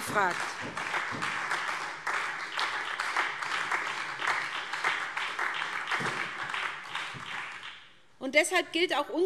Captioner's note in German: Beifall